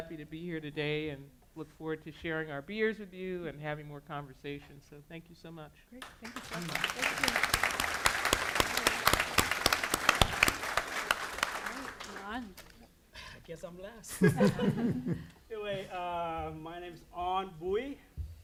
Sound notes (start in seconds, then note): 6.0 applause; 14.2 audience laghing